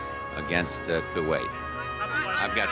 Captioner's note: reporters clamoring